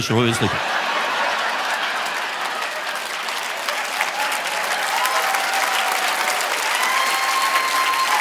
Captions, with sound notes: You're gonna shit oil in your sleep. (audience laughing) (audience applauding)